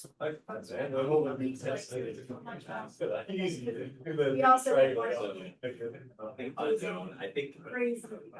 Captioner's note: crowd chatter